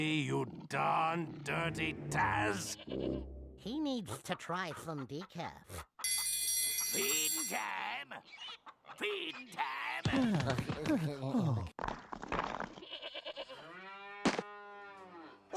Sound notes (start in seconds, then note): 6.0 bell ringing; 12.8 bleating; 13.6 mooing